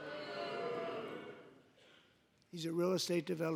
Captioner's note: booing